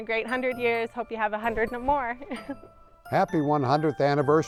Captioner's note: laughs